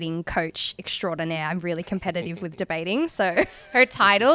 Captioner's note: laughing